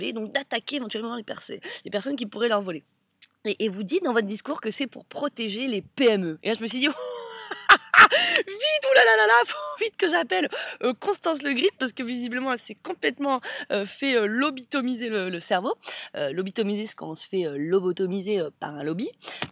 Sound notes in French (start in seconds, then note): 6.9 rires